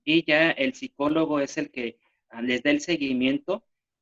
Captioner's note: speaking spanish